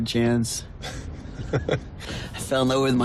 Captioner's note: Henry chuckles